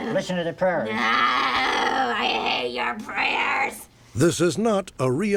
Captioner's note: growling